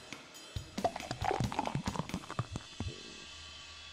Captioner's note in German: Ein Bier wird eingeschenkt